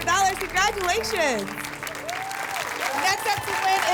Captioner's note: applause and cheering